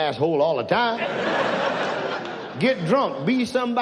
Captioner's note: audience laughs